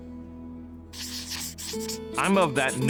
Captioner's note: sketch scratching